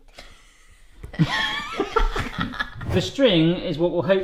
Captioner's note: laughing